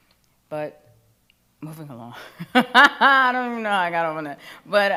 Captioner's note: laughs